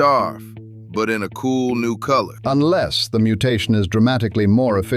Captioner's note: flatly